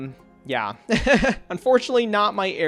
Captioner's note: laughs